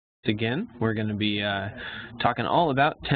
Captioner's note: voiceover